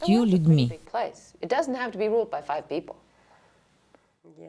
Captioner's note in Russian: Разговаривают на английском